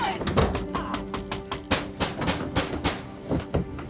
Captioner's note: fists pounding